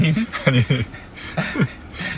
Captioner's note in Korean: 웃음